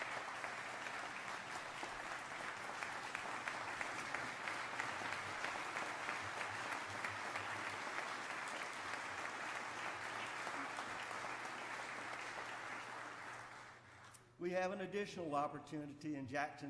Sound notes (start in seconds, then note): 0.0 applause